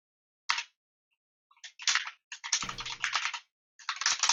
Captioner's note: keyboard keys clanking